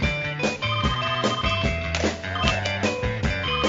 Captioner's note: phone ringing